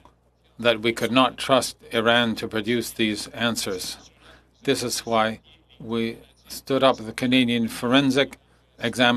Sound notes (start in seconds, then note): 2.3 speaking French